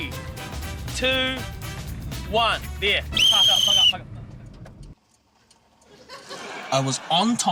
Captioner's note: whistle trills